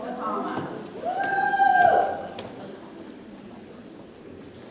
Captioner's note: audience shouts